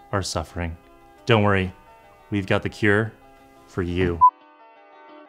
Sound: beep

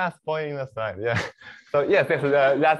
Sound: laughter

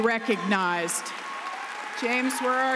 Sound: applause and cheering

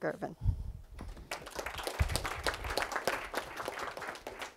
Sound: applause

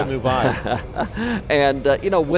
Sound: laughs

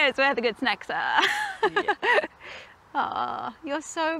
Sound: laughs

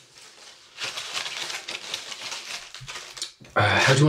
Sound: rustling

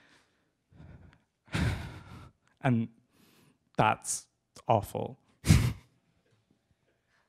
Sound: sigh

